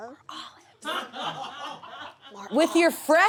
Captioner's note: audience laughs